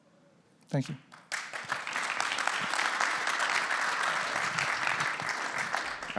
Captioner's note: applause